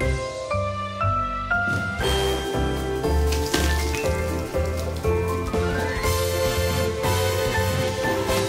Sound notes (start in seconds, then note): 3.2 rustling